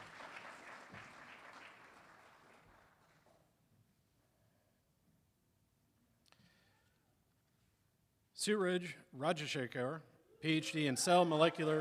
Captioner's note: applause